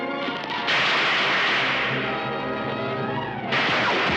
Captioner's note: gunshots